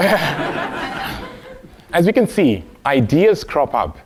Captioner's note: laugh